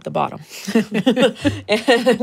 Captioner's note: laughing